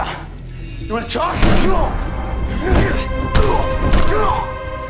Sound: both grunting

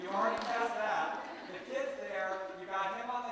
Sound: laughter

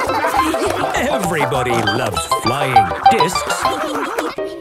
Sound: snorting and laughter; laughter

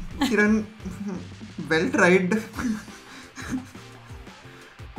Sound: laughs

